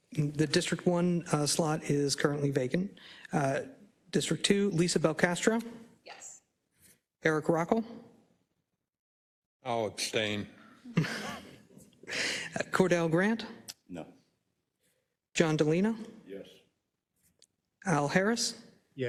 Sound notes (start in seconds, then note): 10.9 laugh